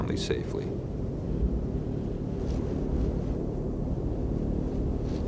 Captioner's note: wind whooshing